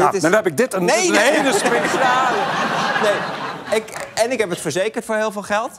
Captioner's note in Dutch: gelach